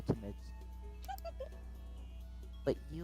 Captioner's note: giggles